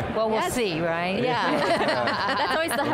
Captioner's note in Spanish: Risas